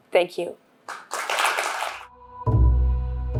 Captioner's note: applause